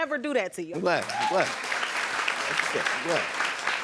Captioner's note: audience applauding